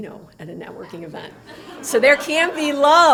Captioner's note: laughter